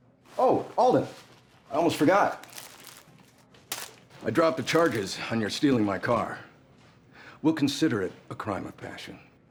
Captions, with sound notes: OH, ALDEN! I ALMOST FORGOT! [SUNFLOWER SEEDS CLATTERING] I DROPPED THE CHARGES ON YOUR STEALING MY CAR. WE'LL CONSIDER IT A CRIME OF PASSION.